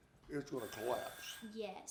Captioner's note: phone rings